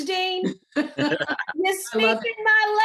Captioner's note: laughter